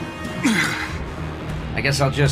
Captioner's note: grunts